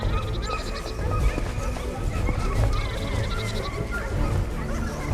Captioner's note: dogs barking